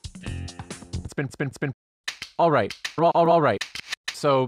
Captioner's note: click